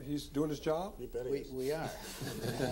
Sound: audience laughing

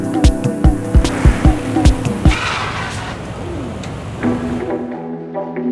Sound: tires rustling; upbeat inquisitive music

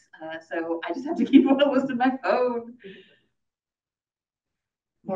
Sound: laughs

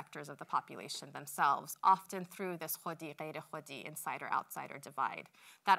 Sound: non-english speech

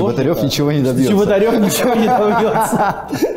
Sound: voice-over

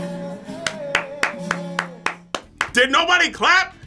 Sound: claps

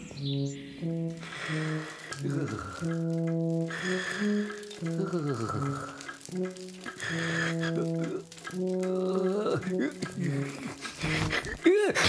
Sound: snoring Lightly

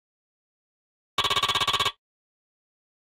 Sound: sound of dot printing

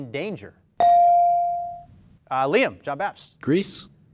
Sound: ding

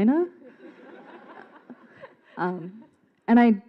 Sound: audience laughs

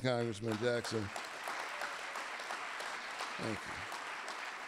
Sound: audience applauding

